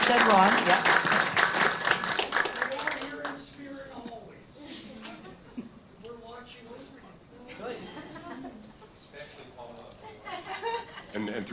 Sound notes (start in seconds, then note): 0.0 applause; 4.6 board giggles; 7.4 board giggles; 10.0 board laughs